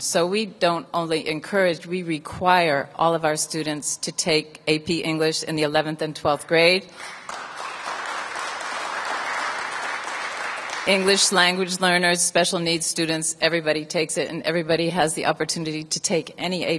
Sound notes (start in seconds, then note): 9.3 applause